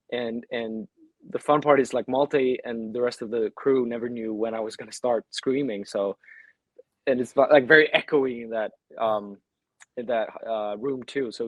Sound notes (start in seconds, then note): none